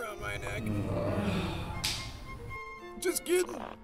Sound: groans

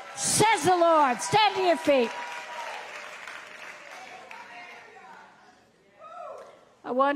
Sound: audience cheering

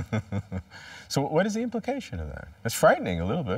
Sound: laughter

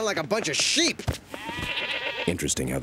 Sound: audience bleating

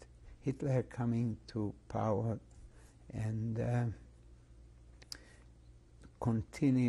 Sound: pauses for 3 seconds

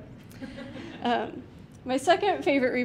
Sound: some laughter from the audience

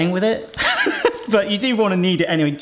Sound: laughing

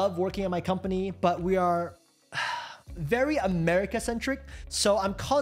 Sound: sighs

